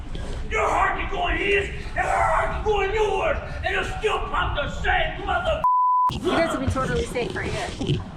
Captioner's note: man shouting